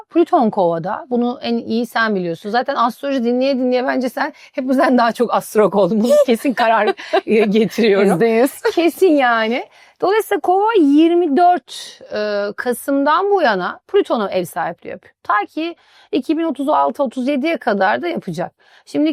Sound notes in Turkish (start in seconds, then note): 6.5 kahkaha